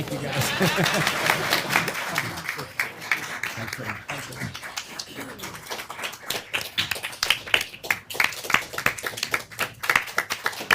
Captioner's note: laugh; applause